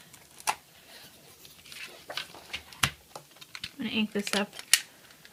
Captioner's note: shuffling and clicking